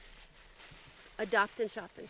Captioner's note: bag rustling